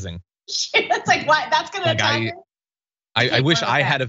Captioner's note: laugh